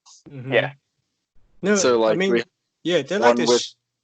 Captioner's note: noises of agreement